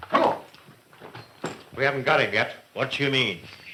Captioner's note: none